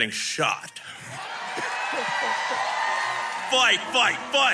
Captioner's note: crowd cheering